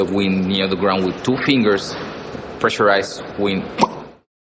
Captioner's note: pops mouth